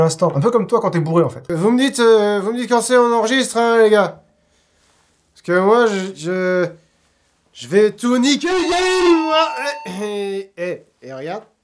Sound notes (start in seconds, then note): 9.4 saturation noises